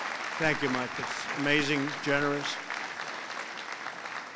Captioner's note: applause